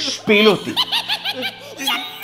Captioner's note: laughing